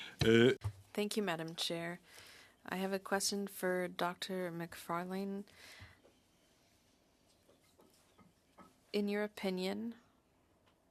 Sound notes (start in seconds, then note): 4.4 speaking French